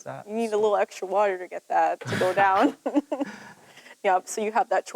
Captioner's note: laughs